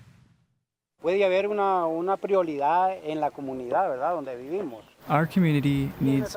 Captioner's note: speaking spanish